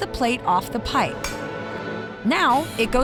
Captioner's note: metal clanging